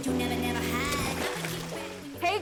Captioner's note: water splashes